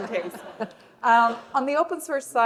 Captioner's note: laughter